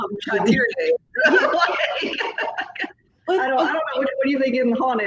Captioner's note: both laughing